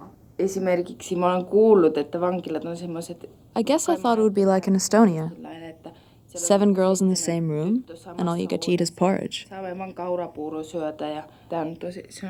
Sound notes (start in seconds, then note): 0.8 speaking foreign language